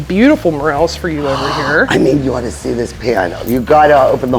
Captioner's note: gasping